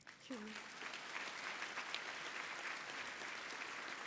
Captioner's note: applause